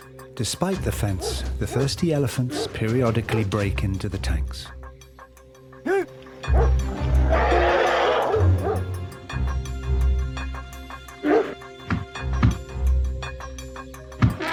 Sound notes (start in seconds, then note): 5.8 man shouts; 6.4 elephant roars; 6.5 dog barks